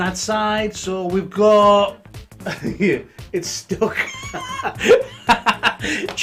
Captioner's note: laughs